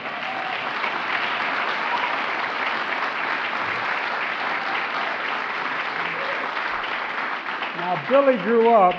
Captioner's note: applause